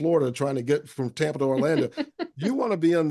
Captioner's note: laughing